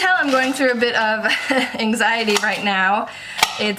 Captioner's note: laughs